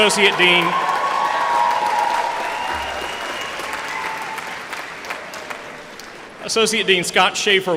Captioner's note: applause